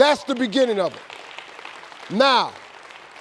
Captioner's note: audience cheering